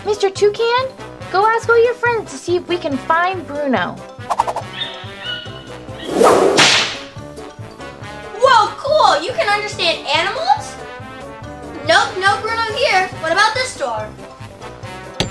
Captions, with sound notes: - Mr. Toucan, go ask all your friends to see if we can find Bruno. (slapping sound) - Whoa, cool! You can understand animals? Nope. No Bruno here. What about this door?